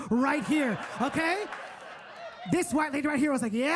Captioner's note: audience laughing